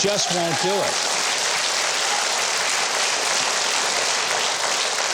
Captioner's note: audience applauds